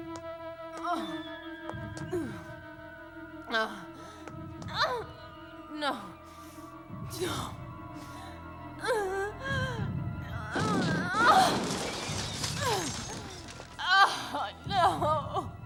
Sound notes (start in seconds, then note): 1.0 groans; 9.6 grunts